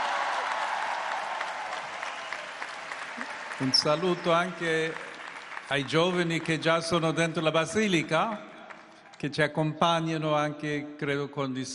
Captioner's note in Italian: applauso